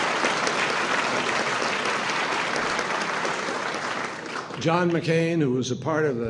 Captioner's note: applause